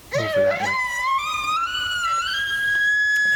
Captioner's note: caller bugling